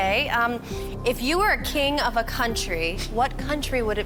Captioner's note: none